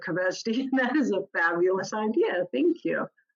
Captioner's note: laughs